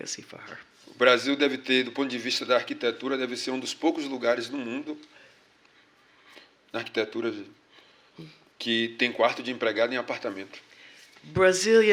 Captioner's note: speaking portuguese